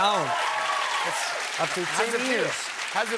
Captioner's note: cheers and applause